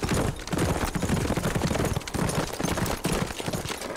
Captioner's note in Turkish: At nalı sesleri